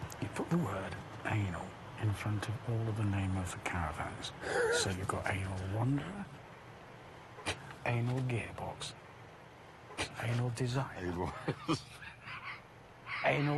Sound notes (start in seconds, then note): 4.4 laughs; 11.1 laughing